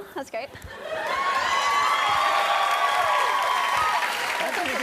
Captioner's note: applause